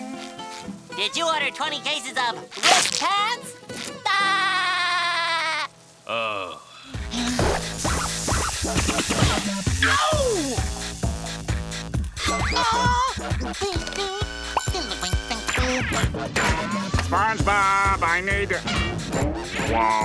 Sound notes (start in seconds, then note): 4.2 laughing; 12.0 humming